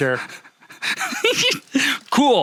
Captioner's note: laughing